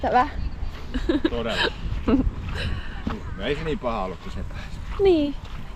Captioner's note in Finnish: naurua